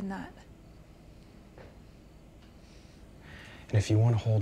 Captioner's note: crickets chirping